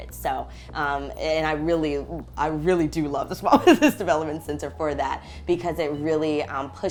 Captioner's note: laugh